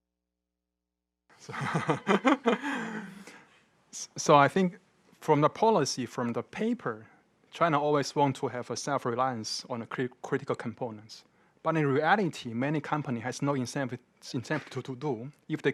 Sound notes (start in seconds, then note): 1.4 laughing